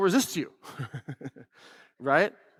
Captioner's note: laughs